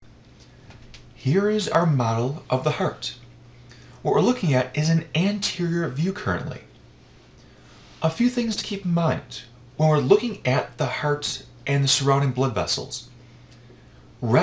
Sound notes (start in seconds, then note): 1.4 voiceover